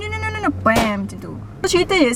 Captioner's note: mimicking shooting sound